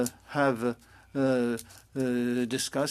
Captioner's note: speaking French